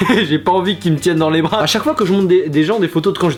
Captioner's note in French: rire